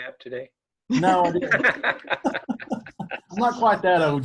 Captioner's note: all laughing